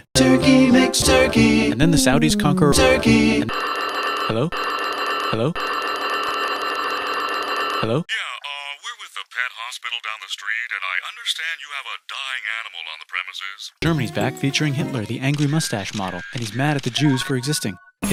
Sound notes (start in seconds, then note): 3.5 phone Ring